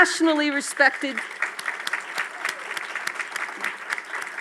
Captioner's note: audience claps